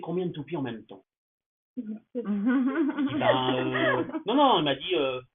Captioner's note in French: Rires